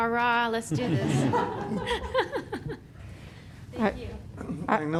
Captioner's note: laughter